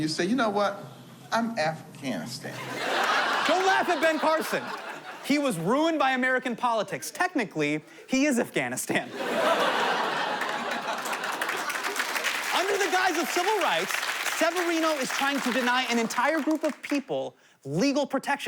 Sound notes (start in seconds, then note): 2.5 audience laughing